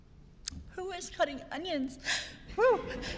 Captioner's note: laughter